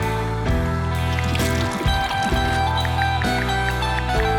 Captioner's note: rock music; paint splattering; ticking